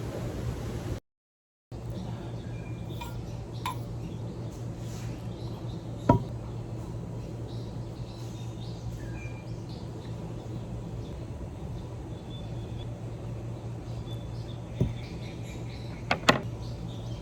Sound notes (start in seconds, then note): 1.8 birds chirp & sing; 2.8 ring runs along metal mug; 6.1 mug hits table; 7.3 birds chirp & sing; 14.8 mug hits table softly; 16.0 sunglasses hit table